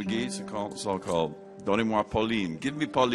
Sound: speaking Cajun

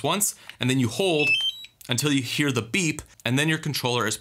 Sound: beeps

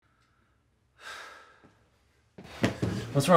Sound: sighs

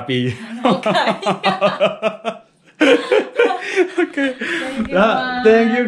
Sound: we both laughed

